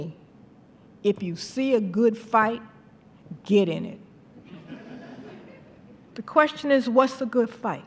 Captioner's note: laughter